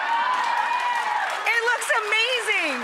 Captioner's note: cheering